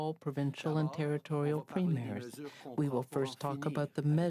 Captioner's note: speaking French